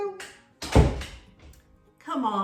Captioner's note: door clicks shut